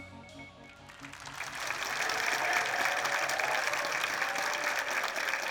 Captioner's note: audience applauding